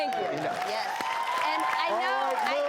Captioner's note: applause